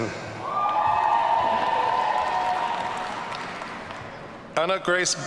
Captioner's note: audience cheering